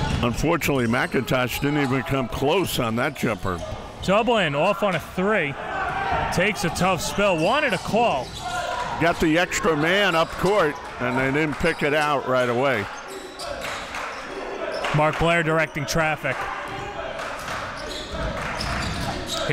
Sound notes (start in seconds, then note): 0.0 crowd cheering; 14.1 crowd cheering; 17.3 crowd cheering